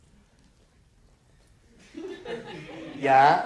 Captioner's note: laughter